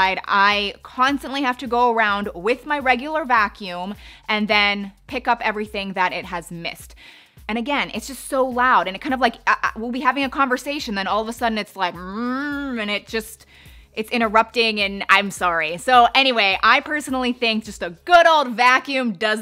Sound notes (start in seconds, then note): 12.3 vocalizes